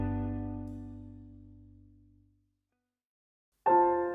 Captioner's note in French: silence